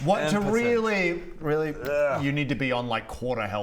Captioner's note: kiss